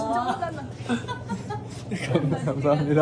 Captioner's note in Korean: 웃음